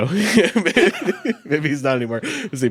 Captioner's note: chuckles